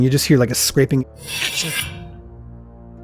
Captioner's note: scraping sound effect